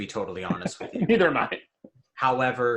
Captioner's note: laughs